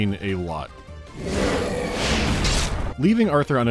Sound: growl-chop

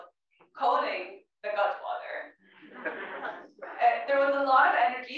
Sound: laugh

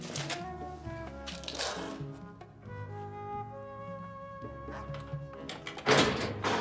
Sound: laughing

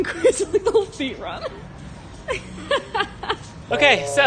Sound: laughs

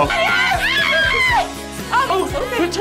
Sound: screams

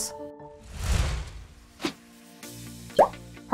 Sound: graphics whooshing

